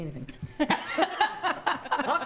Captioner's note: laughing